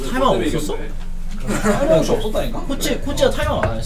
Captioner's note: BuZz